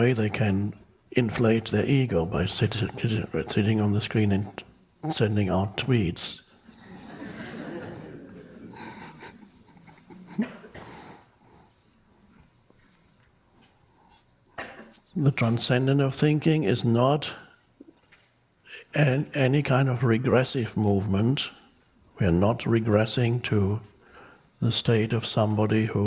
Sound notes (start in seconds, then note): 6.6 crowd laughs; 6.9 Eckhart laughs